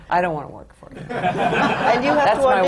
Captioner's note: laughter